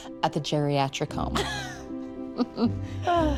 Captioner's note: both laugh